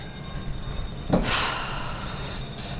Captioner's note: sigh